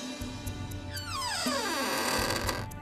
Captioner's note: door creaks